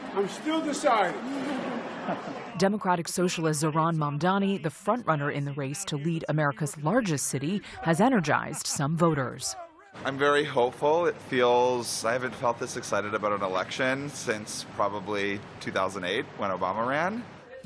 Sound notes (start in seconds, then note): 1.1 laughter